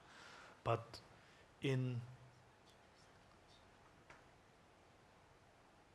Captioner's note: speaking in Tibetan language